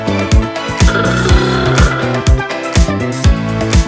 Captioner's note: ahooga Horn!